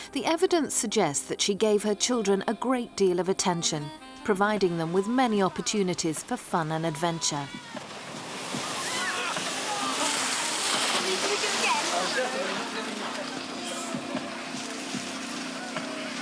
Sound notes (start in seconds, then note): 8.2 water splashing